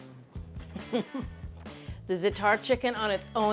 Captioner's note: Julia chuckles